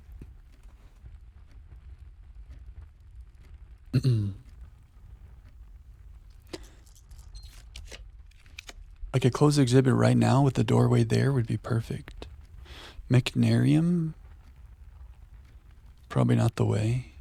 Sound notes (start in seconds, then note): 0.6 silence; 3.9 clears throat; 4.2 silence